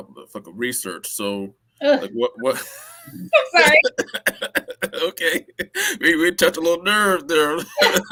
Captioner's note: laughter; laughter